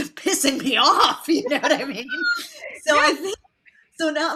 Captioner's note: laughs